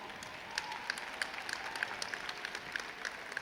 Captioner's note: crowd cheers